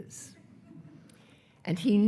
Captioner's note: attendees laughing